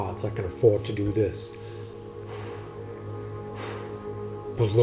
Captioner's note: blows air